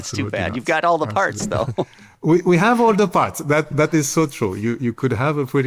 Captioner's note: laughs